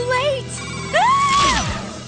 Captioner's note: screams